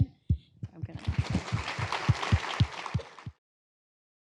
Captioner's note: applause